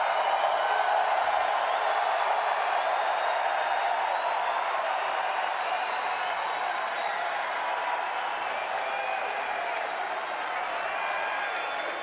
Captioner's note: cheers and applause